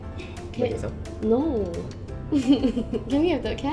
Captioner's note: laughs